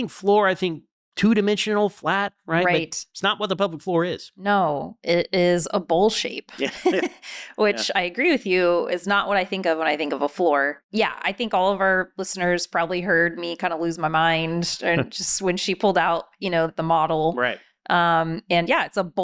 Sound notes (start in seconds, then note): 6.6 laughing